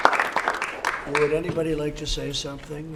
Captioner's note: applause